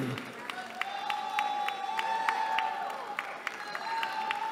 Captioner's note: cheering